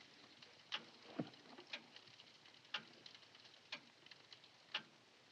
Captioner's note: ticking continues